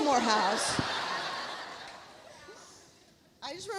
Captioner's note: audience laughs